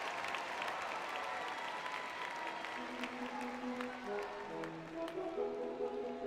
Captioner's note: cheering